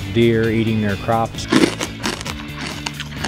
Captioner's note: sound of deer munching